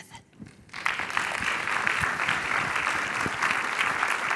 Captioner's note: applauding